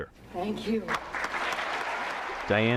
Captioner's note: applause